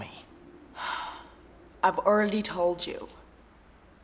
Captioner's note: sighs